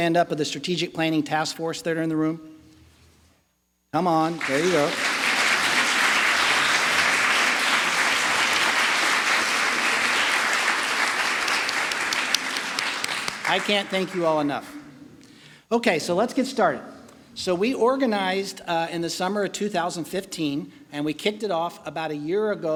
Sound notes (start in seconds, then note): 10.7 applause